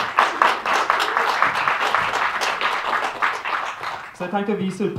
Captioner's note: applause